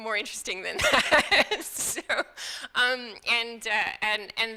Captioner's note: laughing